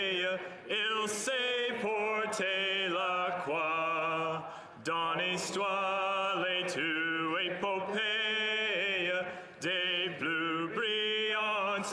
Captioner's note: speaking in french